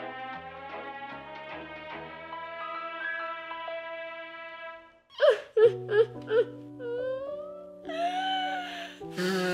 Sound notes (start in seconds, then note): 5.1 sobbing